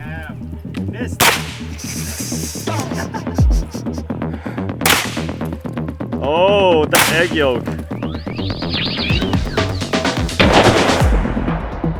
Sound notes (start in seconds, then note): 6.9 gun fires